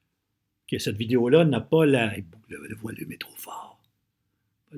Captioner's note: whispering : Way to loud!!!!